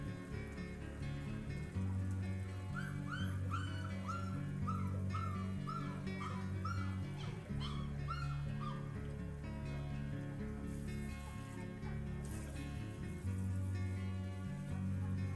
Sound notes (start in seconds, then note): 2.7 puppy whimpering in the background